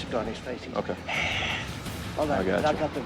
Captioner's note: exhales